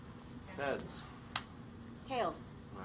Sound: sound of coin slapping hand

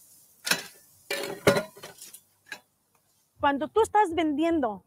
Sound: kitchen tools ratting; speaking in foreign language

